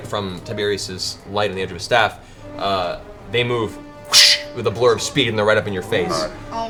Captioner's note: whoosh